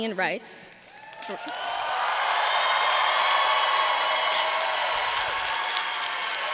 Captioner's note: audience cheering and applauding